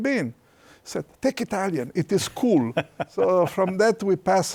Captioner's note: laughs